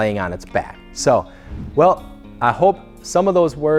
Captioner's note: whoosh